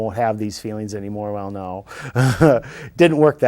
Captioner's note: laughing